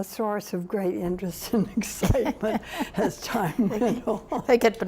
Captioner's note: laughs